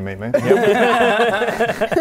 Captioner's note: disturbed laugh